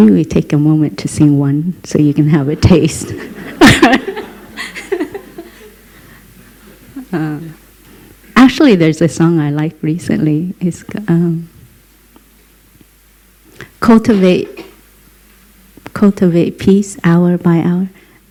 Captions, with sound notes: Maybe we take a moment to sing one, so you can have a taste. (Laughter) Actually, there is a song I like recently. "Cultivate peace hour by hour".